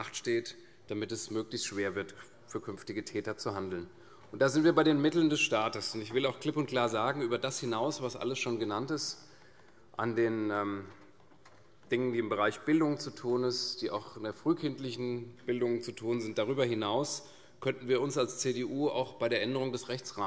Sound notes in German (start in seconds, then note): none